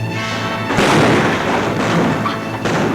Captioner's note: gun bangs; guns bang